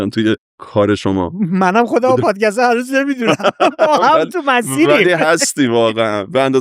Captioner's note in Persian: خنده